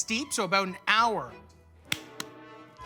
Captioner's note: clapping